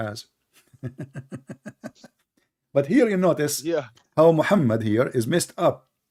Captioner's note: Ketawa